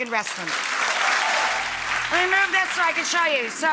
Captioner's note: audience applauding